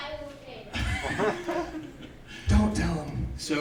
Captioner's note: laughing